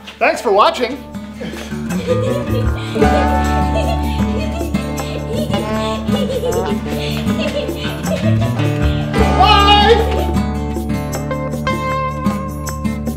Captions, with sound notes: Thanks for watching. (Laughter) BYE!!!!